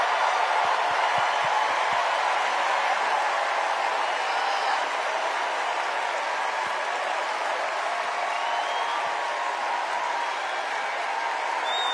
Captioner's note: cheers and applause